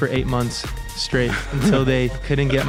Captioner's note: laughs